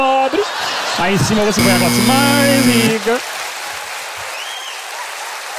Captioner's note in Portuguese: campainha